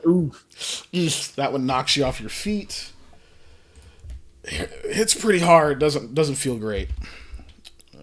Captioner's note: pained hiss